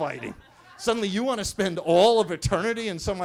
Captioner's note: attendees laughing